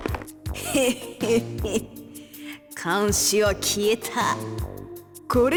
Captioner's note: chuckle